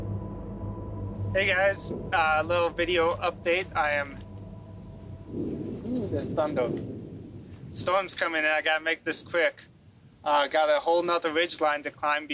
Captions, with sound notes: - Hey guys, a little video update. I am. (thunder roars) Oh, there's thunder. Storm's coming in, I gotta make this quick. Got a whole nother ridge line to climb